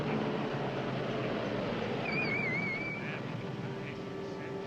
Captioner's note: car rumbles, brakes squeak